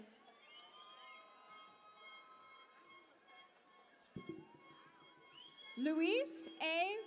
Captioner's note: cheering and Applause